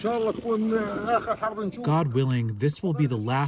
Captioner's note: through translator